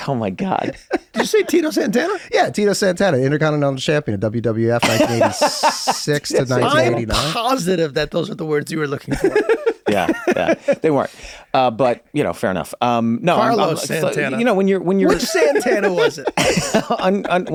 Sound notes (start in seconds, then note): 0.3 laughs; 4.8 laughs; 9.0 laugh